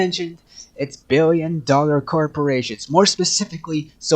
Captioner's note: le gasp